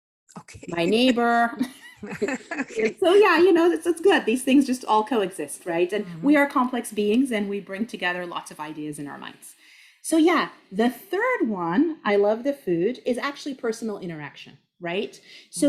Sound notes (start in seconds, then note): 0.4 laughs